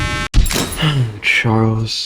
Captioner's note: inhales Oxygen